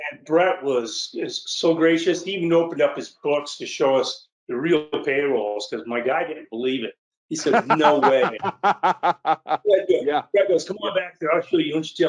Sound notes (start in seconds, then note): 7.4 laughs